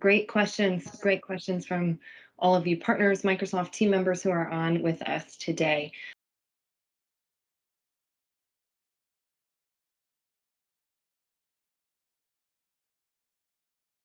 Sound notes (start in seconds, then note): 6.9 silence